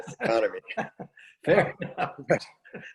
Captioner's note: laughing